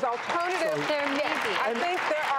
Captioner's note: applause